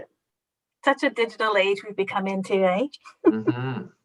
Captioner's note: laughs